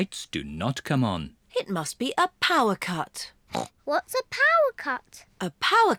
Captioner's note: grunts